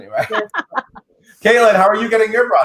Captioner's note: laughs